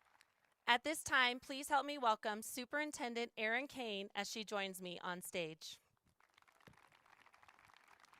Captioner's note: applause